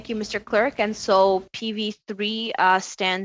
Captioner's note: speaking French